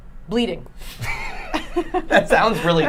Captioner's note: laughing